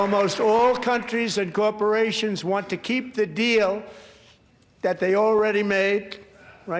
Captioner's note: applause